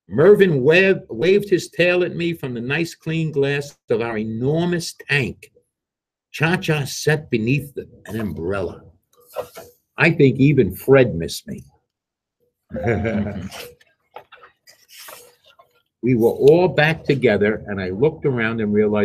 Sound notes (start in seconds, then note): 12.7 laughs